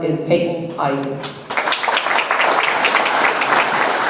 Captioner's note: audience applauds